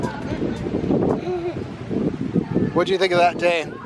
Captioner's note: giggles